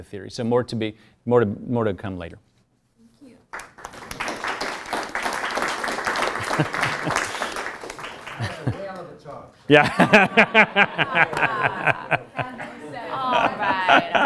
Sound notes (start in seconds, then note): 3.5 applause; 6.6 laugh